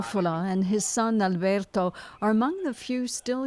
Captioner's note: speaking Foreign Language